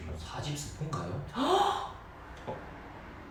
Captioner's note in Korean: 입틀막